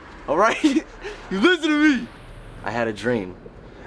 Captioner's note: chuckles